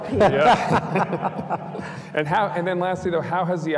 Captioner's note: panelists laughing